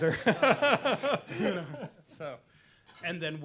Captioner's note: laughter